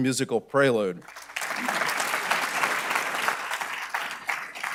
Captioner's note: audience clapping